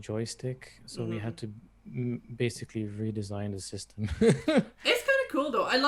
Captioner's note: laughs